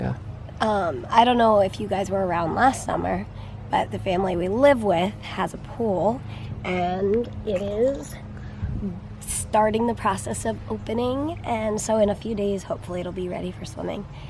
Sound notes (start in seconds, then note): none